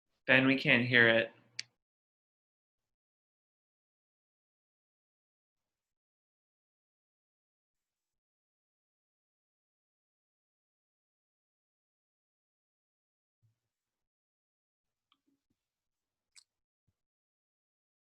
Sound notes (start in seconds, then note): 3.3 silence